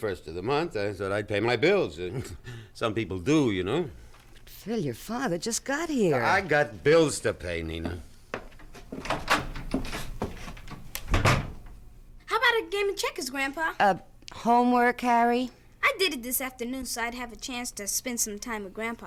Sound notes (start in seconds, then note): 8.2 footsteps departing; 8.4 door opens; 11.6 door closes